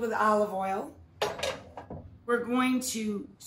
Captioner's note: pan clatters